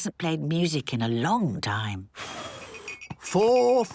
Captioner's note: blows